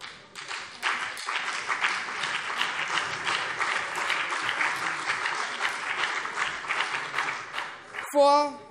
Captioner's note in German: Beifall BÜNDNIS 90/DIE GRÜNEN und vereinzelt CDU